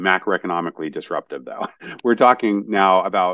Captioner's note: laugh